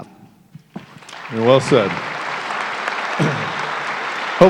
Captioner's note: applause